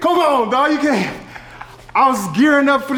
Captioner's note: laugh; giggling